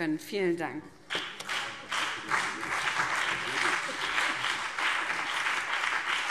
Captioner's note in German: Beifall BÜNDNIS 90/DIE GRÜNEN und CDU